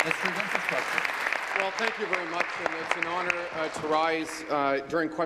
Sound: applause

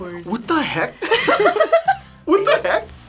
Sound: both laugh

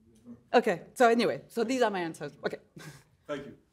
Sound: chuckles

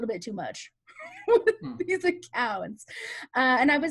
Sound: laughs

